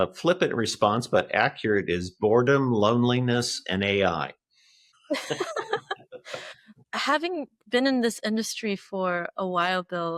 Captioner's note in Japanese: 笑い声